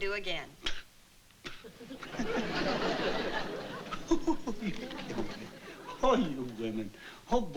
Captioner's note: laughs